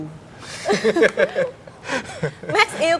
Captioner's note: laugh